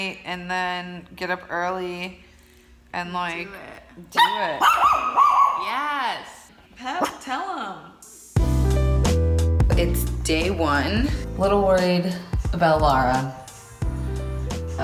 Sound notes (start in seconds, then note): 4.2 Pepper barks; 8.4 gentle music